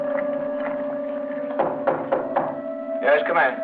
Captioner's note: knocking on door